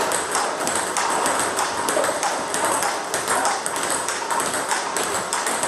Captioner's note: ball ping pong hitting continues